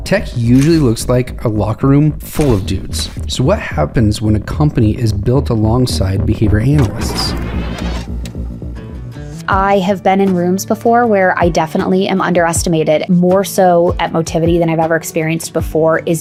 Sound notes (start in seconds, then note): 6.4 tape rewinding; 7.6 button clicks